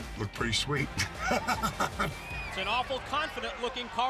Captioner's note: laugh